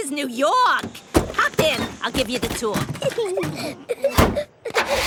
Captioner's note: Peppa and George laughing